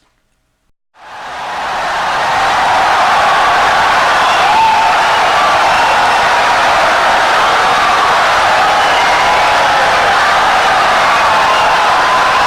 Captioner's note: wild applause and cheering for 17 seconds